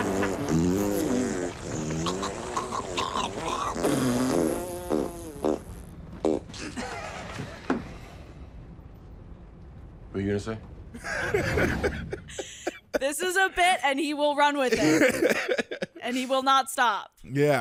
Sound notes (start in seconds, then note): 1.7 eating noises; 11.0 laughter